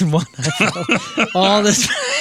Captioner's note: laughing